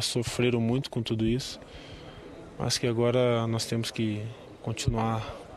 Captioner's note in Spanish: hablando en portugués